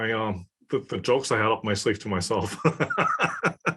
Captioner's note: laugh